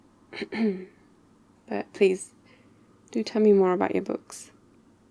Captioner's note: ahem